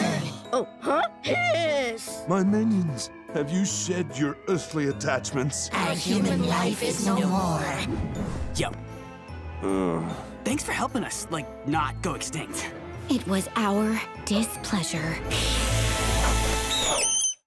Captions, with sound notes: Oh, huh, hiss. My minions, have you shed your earthly attachments? As human life is no more. Yo. [groaning] Thanks for helping us like not go extinct. It was our displeasure. [hissing] [squeaking]